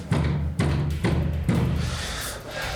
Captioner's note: banging